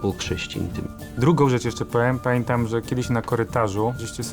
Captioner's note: in Polish